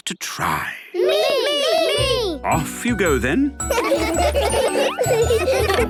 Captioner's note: laughter